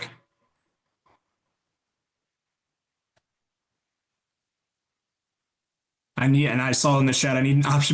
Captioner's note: poll in progress - no audio